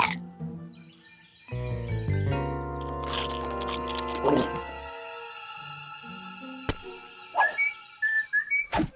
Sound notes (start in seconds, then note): 2.9 carrot crunching; 3.1 gulps; 7.9 whistling